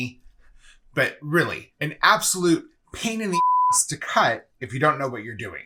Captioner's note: beep